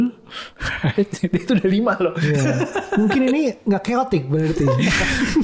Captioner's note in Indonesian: tertawa